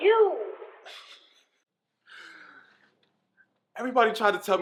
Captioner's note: laughing